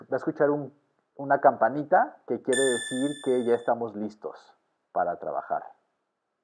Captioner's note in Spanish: ping